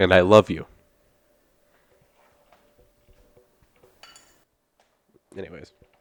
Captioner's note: ting of pop tab hitting glass